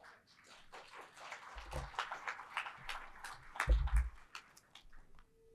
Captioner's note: audience applauding